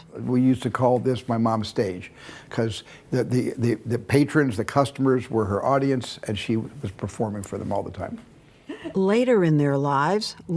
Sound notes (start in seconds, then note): 8.7 Lesley laughing